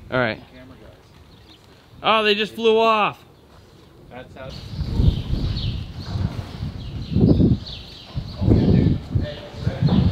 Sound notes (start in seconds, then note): 4.2 birds chirping; 4.2 wind blowing